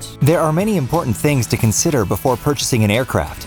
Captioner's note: voiceover